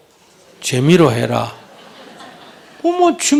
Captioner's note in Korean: 청중 웃음